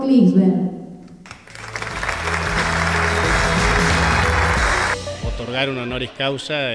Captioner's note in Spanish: Aplausos